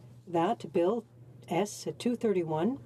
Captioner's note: speaking French